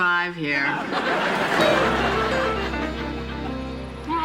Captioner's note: laughter